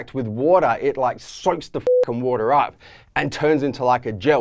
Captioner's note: beep